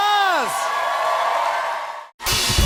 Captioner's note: cheers and applause